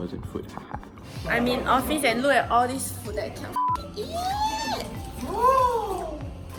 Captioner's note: falsetto